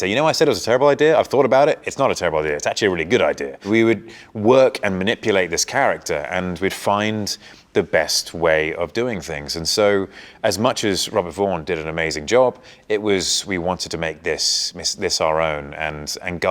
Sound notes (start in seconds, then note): none